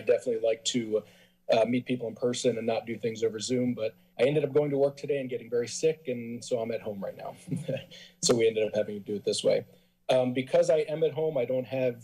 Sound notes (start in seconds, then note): 7.4 laughs